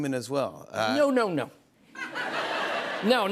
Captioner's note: laughter